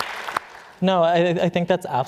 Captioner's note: applause